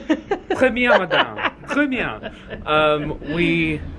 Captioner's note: speaks in French